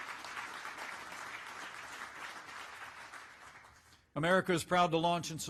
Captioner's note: applause